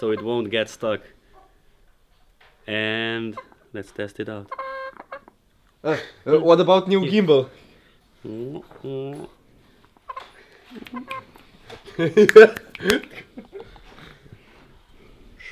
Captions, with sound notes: so it won't get stuck. And ... let's test it out! *chicken clucking* What about new gimbal? *chicken clucking* *laughter*